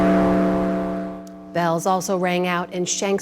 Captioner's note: bell ringing